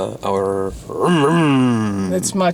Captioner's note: growling